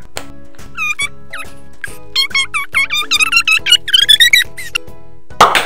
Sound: tape fast-forwarding squeaking; canister pops; screams

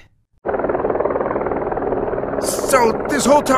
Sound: propeller whirring

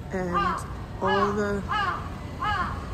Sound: bird noises

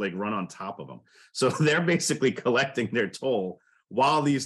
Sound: laughing

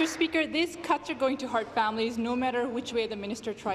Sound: applause

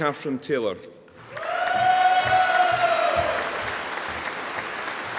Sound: audience applauding

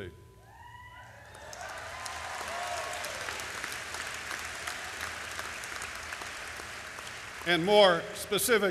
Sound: applause

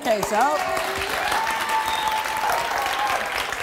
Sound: applause

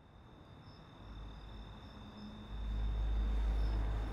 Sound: crickets chirping

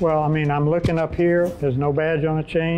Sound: whooshing

